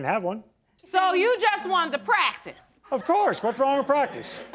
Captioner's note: audience laughing